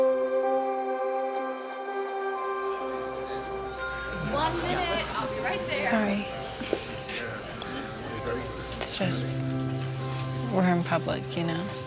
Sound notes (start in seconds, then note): 3.5 bell dings